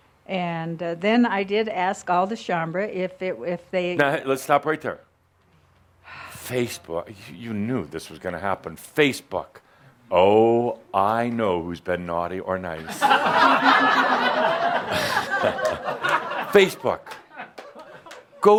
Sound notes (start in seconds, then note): 6.0 sighs; 12.8 laughter